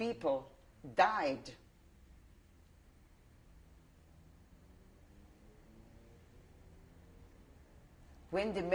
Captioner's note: pauses for 7 seconds